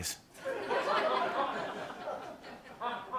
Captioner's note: laughter